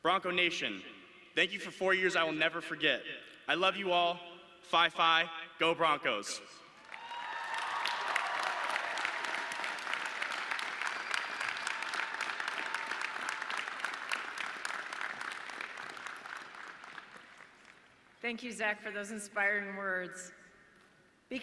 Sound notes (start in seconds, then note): 7.1 audience cheering